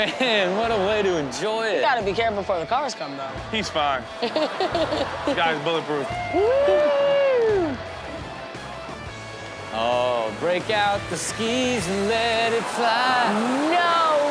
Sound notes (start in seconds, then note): 4.0 audience laughs; 8.4 rock music